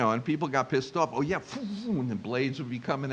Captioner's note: air wooshing